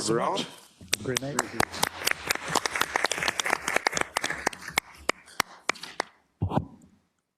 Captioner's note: applause